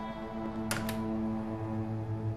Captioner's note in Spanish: Ruido al cerrar la puerta